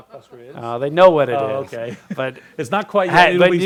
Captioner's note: laughs